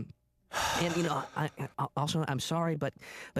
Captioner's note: sighs